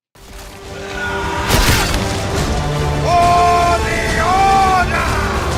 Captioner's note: battle cries and swordplay